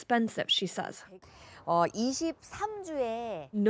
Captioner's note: speaking Alternate Language